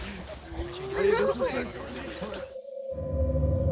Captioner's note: students chatter; mysterious music